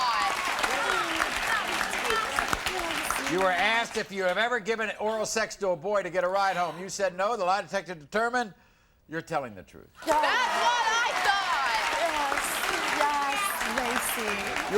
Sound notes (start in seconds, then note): 0.0 audience applauds; 11.9 audience applauds